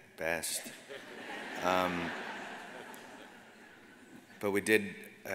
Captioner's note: audience laughs